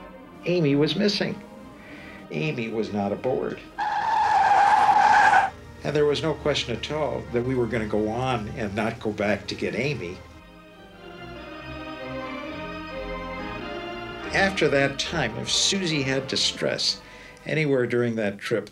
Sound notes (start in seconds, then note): 3.7 tires screech